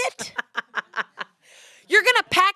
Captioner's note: laughs